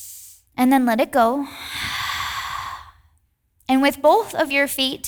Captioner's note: inhales deeply; exhales deeply